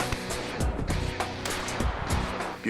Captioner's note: gun fires